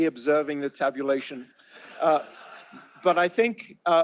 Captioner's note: laughter